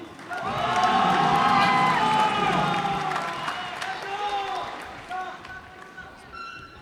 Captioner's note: cheers and applause